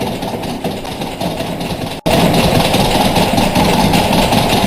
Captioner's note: door banging; door handle rattling